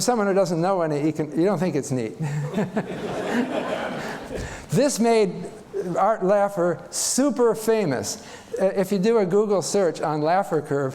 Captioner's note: chuckles